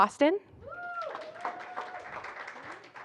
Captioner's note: applause